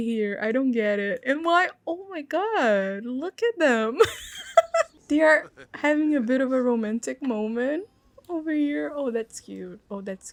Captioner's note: laugh